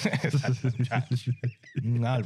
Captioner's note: both Laughing